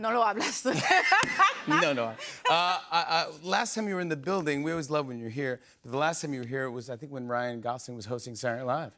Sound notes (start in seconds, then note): 0.0 conversing in Spanish; 0.4 laughter